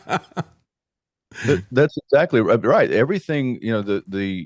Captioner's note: laughing